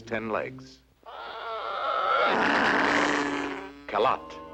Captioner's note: roars